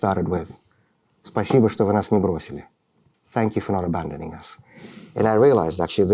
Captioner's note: speaking russian